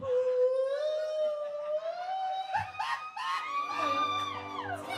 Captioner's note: making funny noises